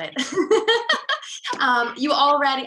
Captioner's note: laughing